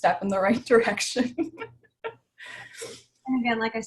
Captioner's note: laughs